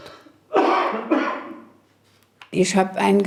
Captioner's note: cough